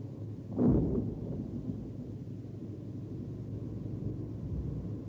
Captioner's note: wind blowing